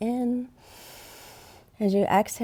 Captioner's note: inhales